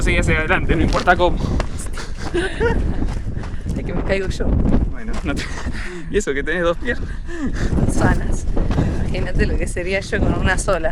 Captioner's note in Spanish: risas